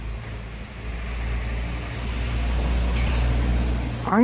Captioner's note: car passes